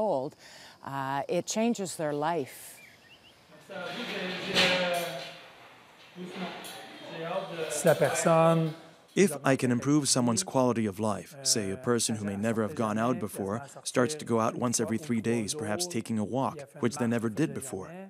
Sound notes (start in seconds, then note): 5.0 speaking French